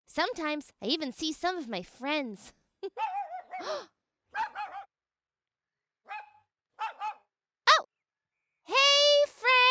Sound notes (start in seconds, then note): 2.8 laughs; 3.9 dog barks